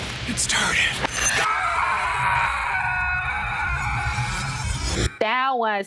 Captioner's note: screaming